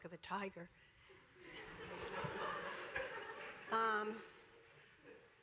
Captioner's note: laughter